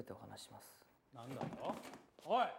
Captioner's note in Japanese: 席を立つ音